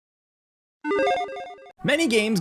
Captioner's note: electronic dinging